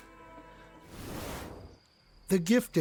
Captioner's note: air whooshing